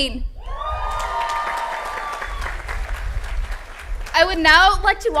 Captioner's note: applause